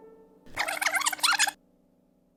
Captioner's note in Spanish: cinta rebobinándose